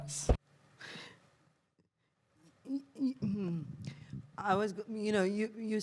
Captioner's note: inhales